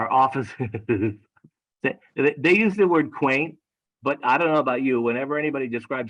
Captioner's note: laugh